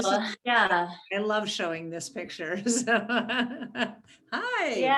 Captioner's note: laughs